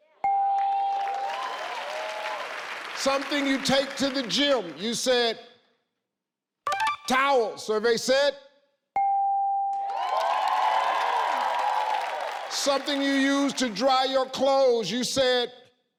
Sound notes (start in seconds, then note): 0.3 bell chimes; 0.6 audience cheering; 9.1 bell chimes; 9.8 audience cheering